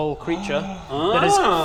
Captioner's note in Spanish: Grito ahogado